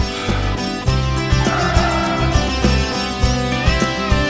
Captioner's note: Car halting